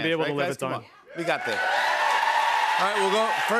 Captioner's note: cheers and applause